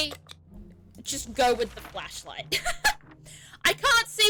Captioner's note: laughs